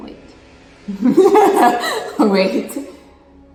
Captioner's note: laughs